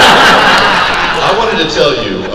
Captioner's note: crowd laugh